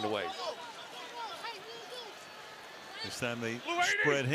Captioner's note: onfield chatter